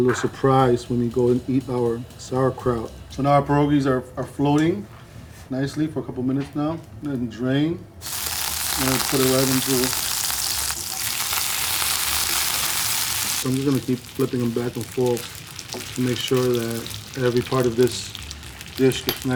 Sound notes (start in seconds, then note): 7.9 pierogies sizzle loudly; 10.3 pierogies sizzling continues